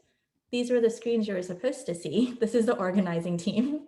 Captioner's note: laughs